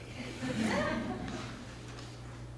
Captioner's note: laughter